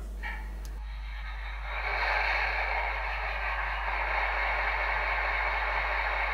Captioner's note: starting the engine, light is flickering a bit